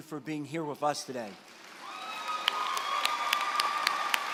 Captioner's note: applause